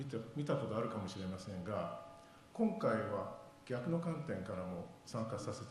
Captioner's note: speaking foreign language